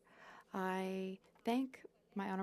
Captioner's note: speaking French